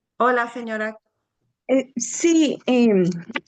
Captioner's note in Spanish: hablando en español